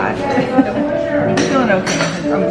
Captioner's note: laughs